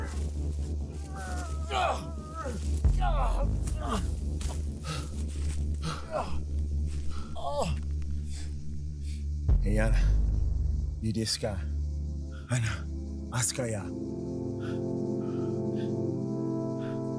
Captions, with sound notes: [Struggling groans continue] [Heavy breathing] [Speaking Cherokee language] That was a brave man. He will be remembered [Speaking Cherokee language] from this day forward.